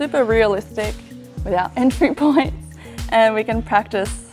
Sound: chuckles

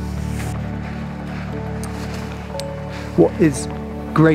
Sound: skis whooshing

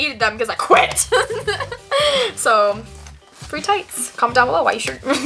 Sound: laughs

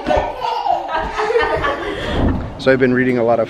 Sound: laughing

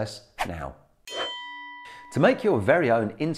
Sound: bell chimes

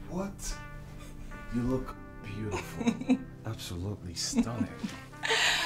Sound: Efosa giggles

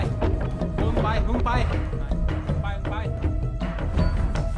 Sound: Malay Language

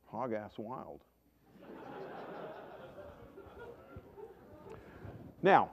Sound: laughter

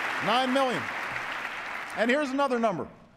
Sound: applause

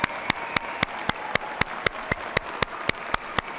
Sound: cheers and applause

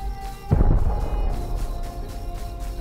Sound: boom

